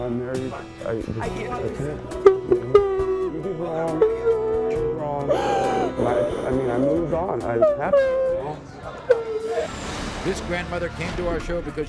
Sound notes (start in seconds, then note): 2.5 sobbing drowns out